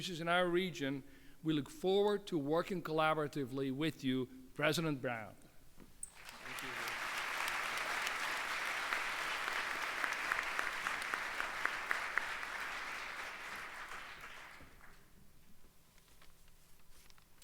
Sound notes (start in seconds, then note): 6.1 applause